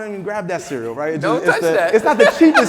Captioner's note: laughing